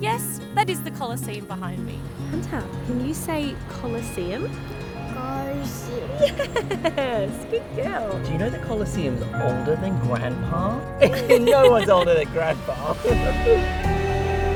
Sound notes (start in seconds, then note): 10.9 laugh; 13.1 laughs